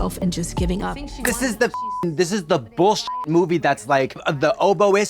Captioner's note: beep